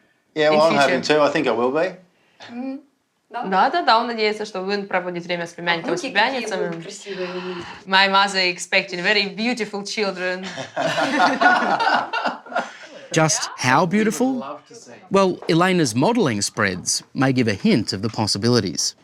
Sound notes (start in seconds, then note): 3.8 speaks ukrainian; 10.4 laughter